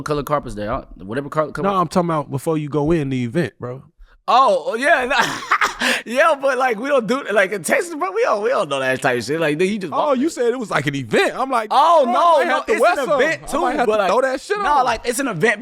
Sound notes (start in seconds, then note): 4.9 laughing